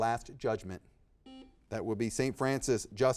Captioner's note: buzzer beeping